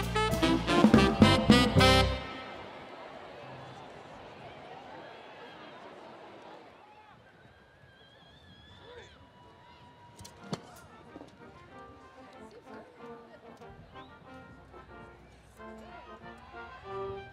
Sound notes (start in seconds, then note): 2.2 music fades; 10.1 crowd cheering; 13.8 upbeat collegiate music